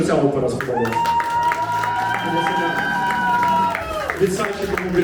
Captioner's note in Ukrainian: Оплески і вигуки